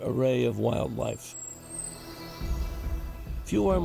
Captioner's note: birds singing